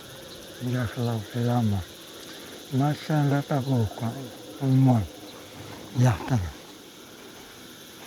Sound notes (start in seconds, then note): 4.7 speaking Spanish